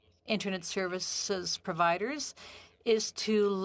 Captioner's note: speaking in French